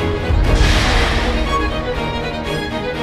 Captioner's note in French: Souffle d'un rorqual